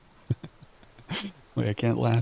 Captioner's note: laughs